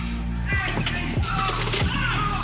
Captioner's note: worker yelling